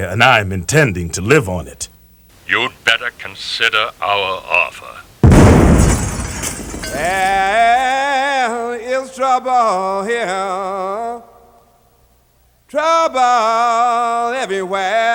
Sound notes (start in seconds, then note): 5.2 explosion; 6.9 blues singing